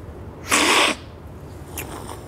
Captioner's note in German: Synchrones Schlürfen